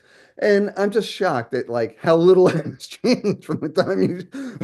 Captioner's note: laughs